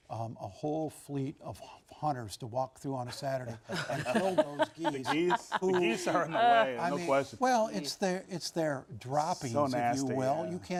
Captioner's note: laughter